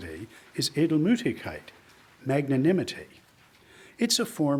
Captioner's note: speaks in foreign language